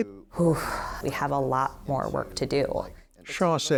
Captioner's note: exhaling